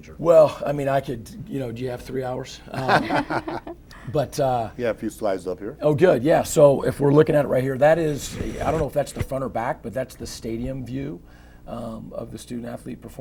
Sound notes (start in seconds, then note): 2.7 laughter